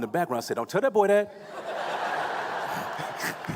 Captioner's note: laughing